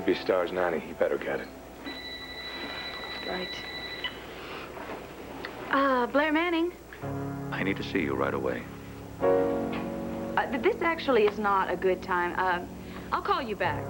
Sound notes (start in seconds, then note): 3.9 ring